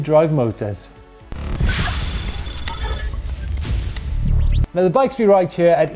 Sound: techno lighting sound effects

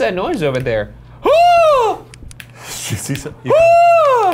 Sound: fake screams

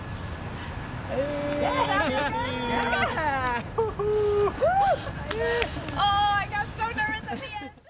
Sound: cheers

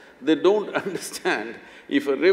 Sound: laughs

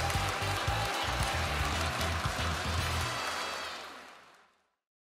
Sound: applause and music riff fades out

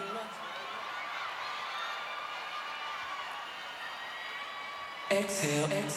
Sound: echoes

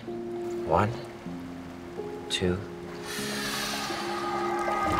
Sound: both inhale

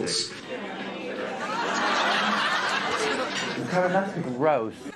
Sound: audience laughs

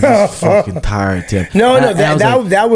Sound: laughs

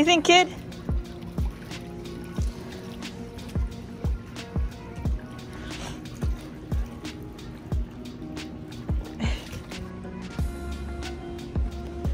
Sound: background music; water splashing noises; background music

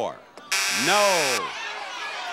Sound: buzzer blares

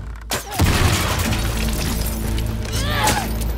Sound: explosion

